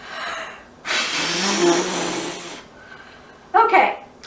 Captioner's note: blows air forcefully